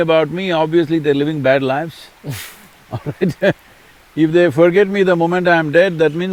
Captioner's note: both laugh